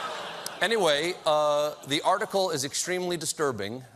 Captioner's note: laughter